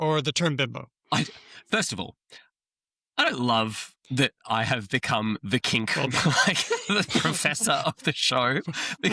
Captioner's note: laughter